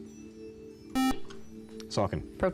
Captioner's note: buzzer